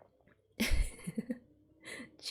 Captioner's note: laughs